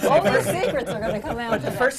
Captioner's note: laughter